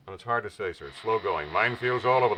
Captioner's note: phone ringing